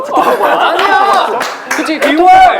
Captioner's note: laughing